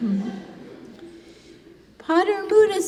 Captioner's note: congregation laughing